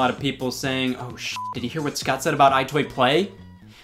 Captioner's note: beep